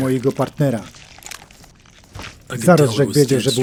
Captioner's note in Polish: chlupniyńcie